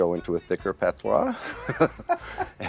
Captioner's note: laughs